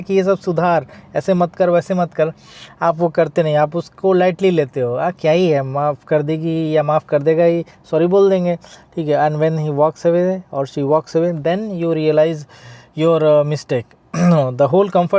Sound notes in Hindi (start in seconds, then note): 14.1 गला साफ़ करने की आवाज़